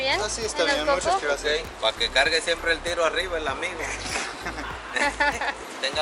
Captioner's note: laughter